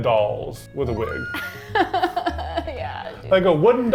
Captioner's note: laughs